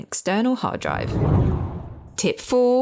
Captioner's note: air whooshing